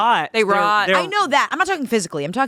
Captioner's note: none